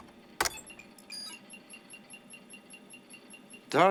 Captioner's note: alarm